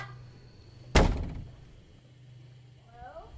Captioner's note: door closing